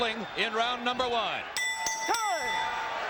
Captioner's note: bell rings